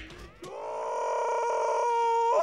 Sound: Patrick screaming

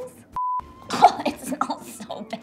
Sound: beep

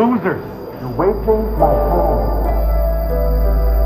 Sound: audio distortion fading in

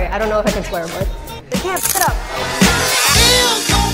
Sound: camera clicking; rhythmic music

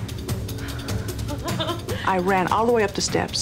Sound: laughing

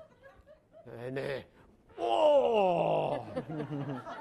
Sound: laughing; grunting; laughing

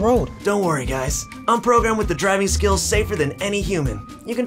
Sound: car voice

